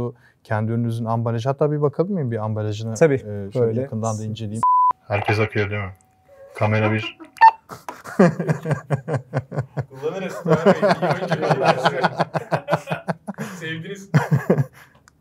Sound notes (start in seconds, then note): 7.8 laughter; 13.6 voiceover; 14.1 laugh